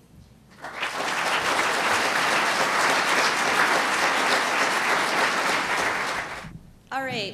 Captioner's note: applause